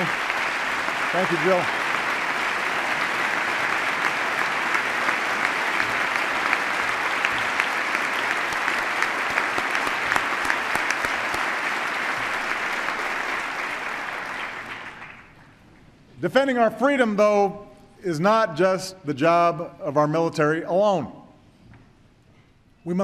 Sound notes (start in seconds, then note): 14.1 applause